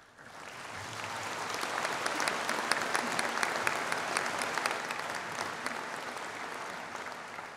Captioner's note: applause